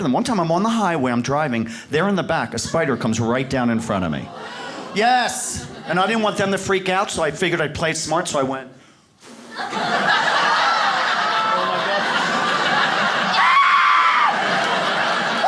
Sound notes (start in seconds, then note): 4.3 audience gasps; 9.3 audience laughs